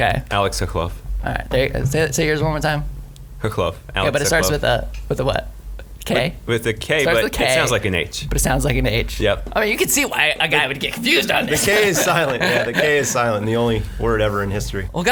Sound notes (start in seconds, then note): 11.0 laughing